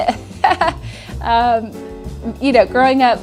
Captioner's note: laughs